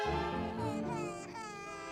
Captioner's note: baby crying